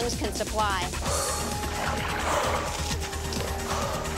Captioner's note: panting